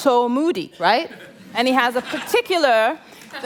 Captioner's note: laughter